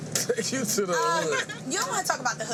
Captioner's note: woman laughing